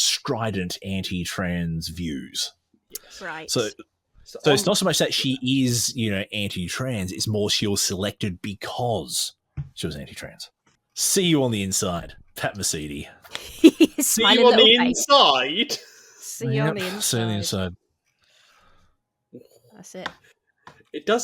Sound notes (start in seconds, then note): 13.3 laughs